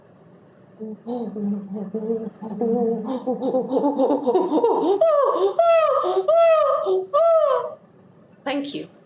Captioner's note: chimpanzee noise